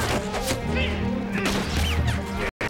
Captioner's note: groaning